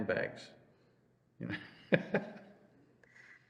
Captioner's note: laughs